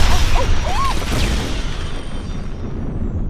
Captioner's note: gasps; explosion